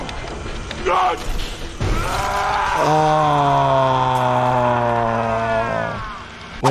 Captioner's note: Doey screams